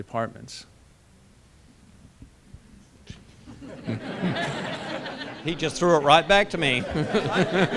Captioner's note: laughter